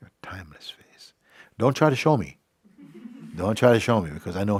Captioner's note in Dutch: gelach